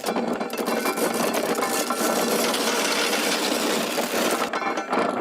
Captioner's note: corn rattling